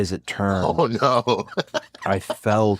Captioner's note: laugh